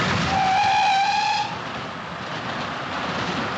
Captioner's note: train Whistle Toots